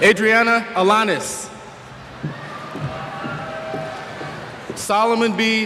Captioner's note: cheers